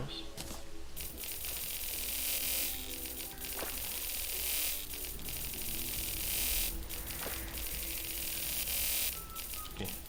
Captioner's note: mad currecy sound effects